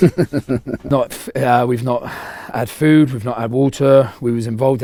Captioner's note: laughing